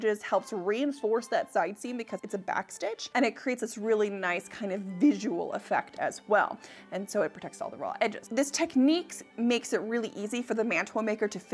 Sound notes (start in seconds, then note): none